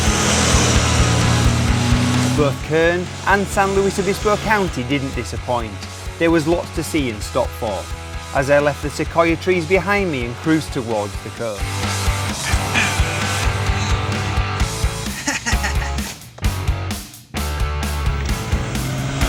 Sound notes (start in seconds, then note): 0.0 motorcycle revving over music; 12.2 groaning; 14.6 laughing; 16.0 upbeat adventurous music; 17.8 motorcycle revving over music